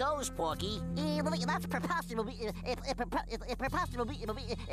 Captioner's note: stuttering